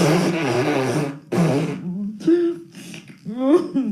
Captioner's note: laughing